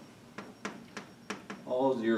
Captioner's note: chalk tapping